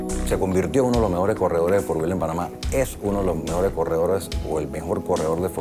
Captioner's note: speaking Spanish